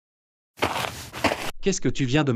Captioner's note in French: FX - Footsteps - On Multiple Dirt - Walk